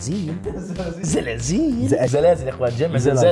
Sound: mispronouncing

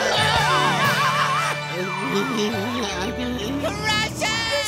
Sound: shouting; groaning

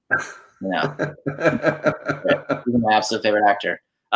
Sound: laughing

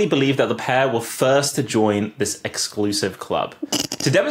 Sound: snorts

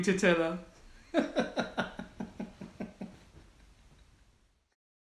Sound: laughs

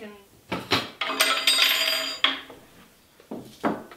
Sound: silverware falling

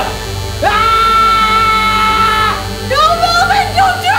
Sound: shouts

